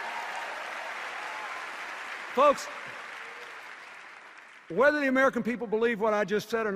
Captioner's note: cheers and applause